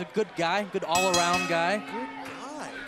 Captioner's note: bell ringing